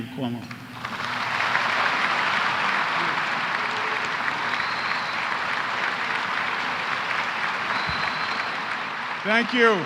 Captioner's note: applause